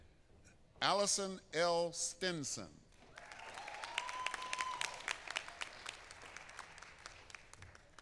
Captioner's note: applause